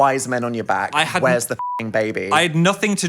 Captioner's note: beep